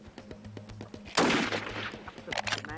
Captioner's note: gunshot